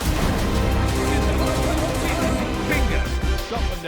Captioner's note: gunfire; explosion